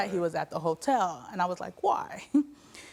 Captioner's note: giggles